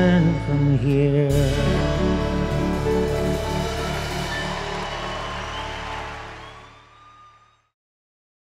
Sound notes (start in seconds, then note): 2.7 crowd cheering